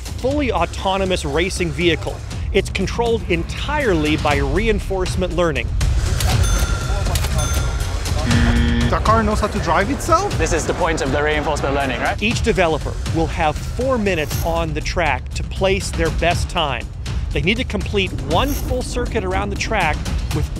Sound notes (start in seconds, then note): 6.4 dinging bells; 6.9 chatter; 8.2 buzzer